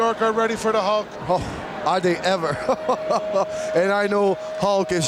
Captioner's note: laughs